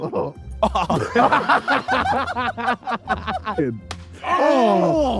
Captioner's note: group laughing